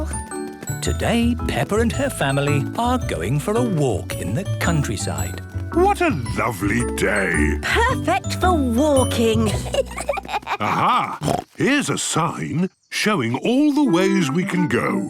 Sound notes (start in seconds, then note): 9.4 children giggling; 10.6 snorts